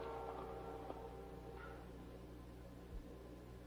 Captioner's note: tense music continues; train whistling